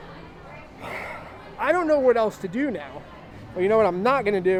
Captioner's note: sighs